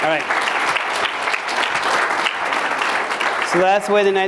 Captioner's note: applause